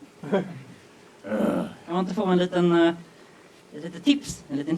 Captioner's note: audience laughs; Murray sighs